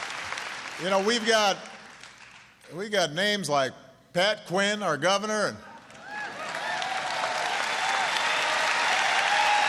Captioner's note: applause